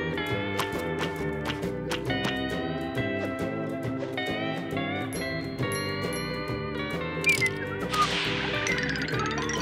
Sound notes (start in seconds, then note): 7.2 whistling